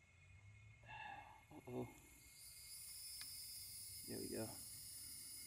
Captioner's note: sighing; distant hissing